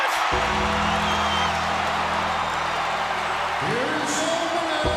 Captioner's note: bell tolls; bell dings